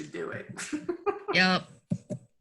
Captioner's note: laughing